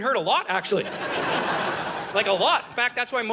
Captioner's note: audience laughing